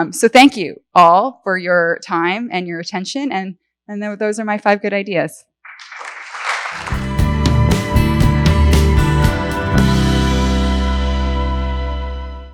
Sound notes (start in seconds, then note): 5.7 audience applauds; 6.7 relaxing music